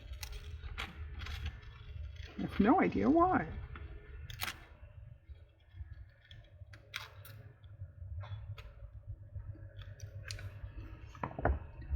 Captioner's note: sarcastically